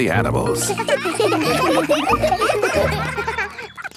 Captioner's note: children laughing